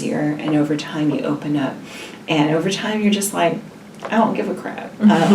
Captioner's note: laughs